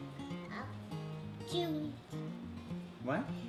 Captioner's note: baby babbling